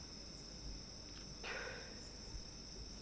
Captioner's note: DEV sighs